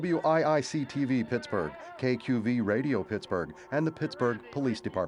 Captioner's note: indistinct shouting